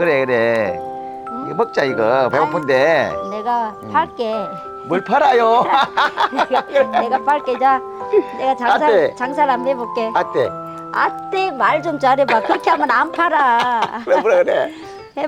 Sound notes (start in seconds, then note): 5.4 both laughing